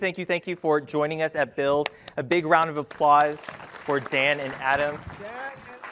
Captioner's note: applause